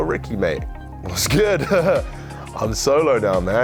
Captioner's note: laughs